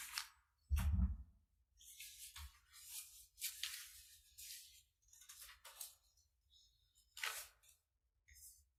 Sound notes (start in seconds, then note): 3.6 paper rustling loudly